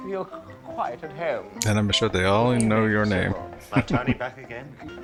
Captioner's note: chuckling